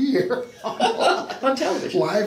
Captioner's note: laughs